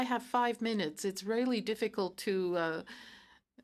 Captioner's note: speaking in french